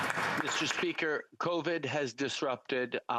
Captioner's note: applause